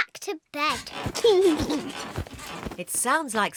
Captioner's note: laughs